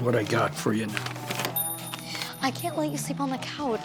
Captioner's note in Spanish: timbre de campana